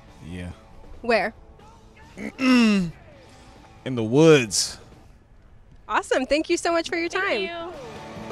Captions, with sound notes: Yeah Where? (clears throat) IN THE WOODS Awesome, thank you so much for your time